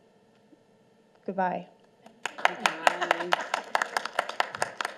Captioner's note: applause